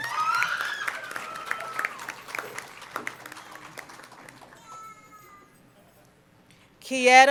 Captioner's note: cheering and Applause